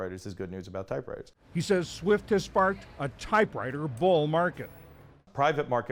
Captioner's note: voice-over